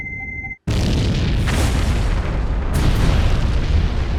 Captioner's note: missile whirring; radio beeping; loud boom